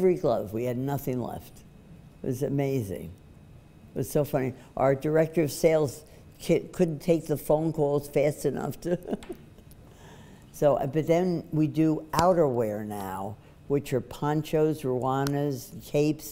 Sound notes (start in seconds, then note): 8.9 laughs